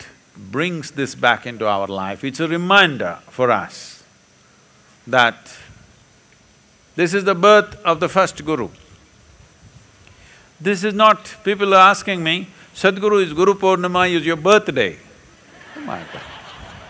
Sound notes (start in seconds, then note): 15.4 laughter; 15.5 laughs